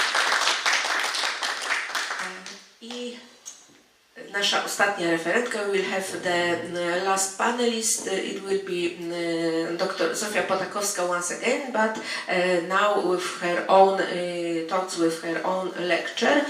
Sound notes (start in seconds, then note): 0.0 audience applauds; 2.5 speaking in foreign language